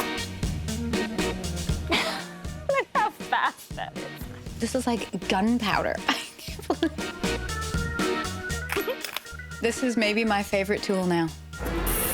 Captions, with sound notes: [ Laughs ] Look how fast that is! This is like gunpowder. [ Laughs ] [ Chuckles ] This is maybe my favorite tool now.